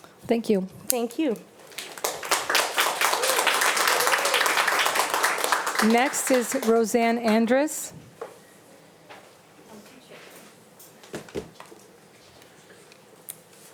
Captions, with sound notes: - Thank you. - Thank you. (audience applauding) - Next is Roseann Andrus.